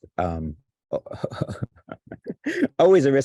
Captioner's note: laughs